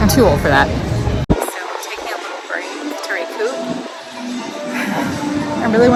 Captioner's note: sigh